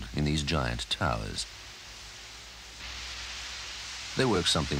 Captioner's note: water running